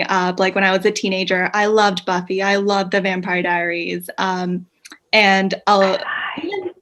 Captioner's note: whispers "Twilight"